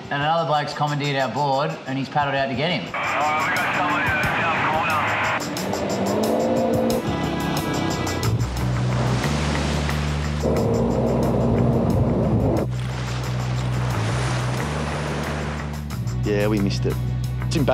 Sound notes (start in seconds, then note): 3.5 voice over walkie-talkie; 8.6 waves crashing